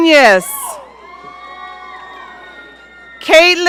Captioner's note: audience cheering